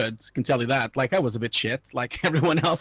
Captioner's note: laughing